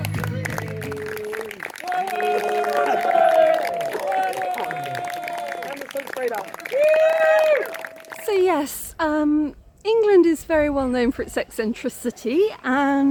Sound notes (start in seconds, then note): 0.6 cheering